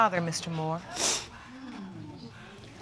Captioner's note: sniffling